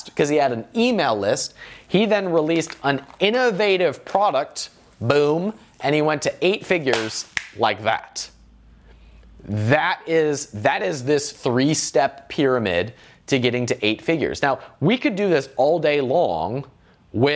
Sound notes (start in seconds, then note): 6.9 claps hands; 7.3 snaps fingers